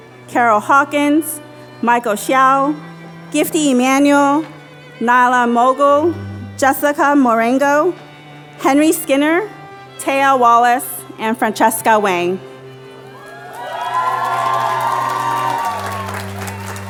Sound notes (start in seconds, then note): 13.1 applause